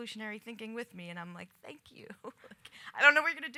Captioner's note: laughs